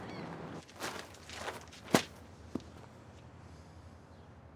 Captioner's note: paper rustles